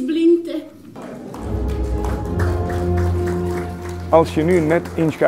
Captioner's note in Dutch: applaus